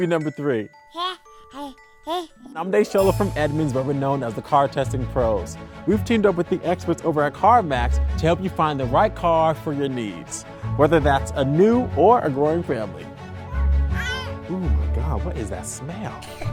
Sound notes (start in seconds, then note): 2.0 baby cooing; 13.9 baby crying